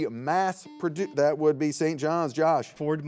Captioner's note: buzzer beeps